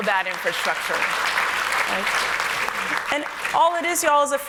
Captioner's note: applause